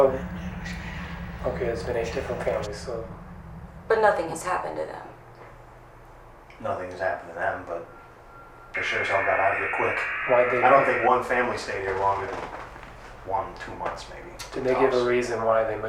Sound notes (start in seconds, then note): 6.0 vibration stops; 8.6 buzzing